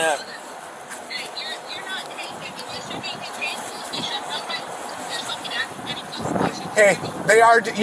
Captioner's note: indistinct phone chatter